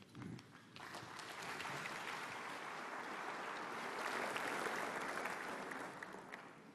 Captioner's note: applause